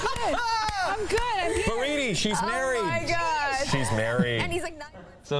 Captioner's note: laughter